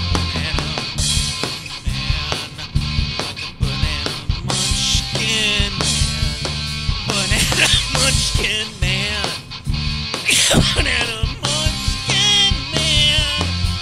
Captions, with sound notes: Banana munchkin man Like a banana munchkin man Banana [coughs] munchkin man [hard coughing] Banana munchkin man